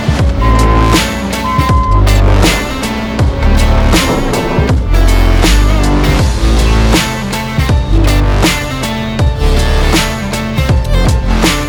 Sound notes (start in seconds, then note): 0.3 machinery beeping; 0.9 upbeat music